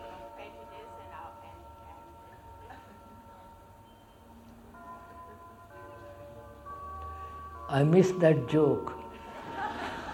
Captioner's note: laughter